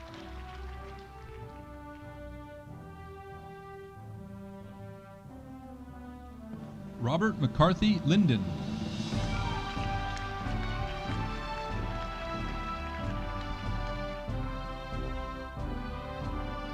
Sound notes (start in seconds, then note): 9.0 audience applauding